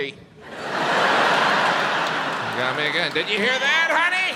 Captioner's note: audience laughs